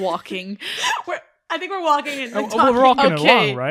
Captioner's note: laughing